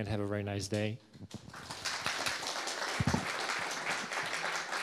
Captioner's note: audience applauding